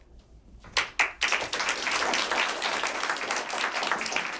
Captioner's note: applause